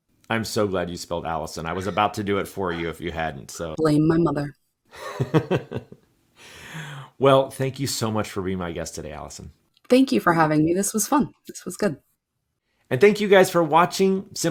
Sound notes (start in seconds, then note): 5.0 chuckles